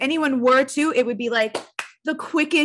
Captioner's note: clapping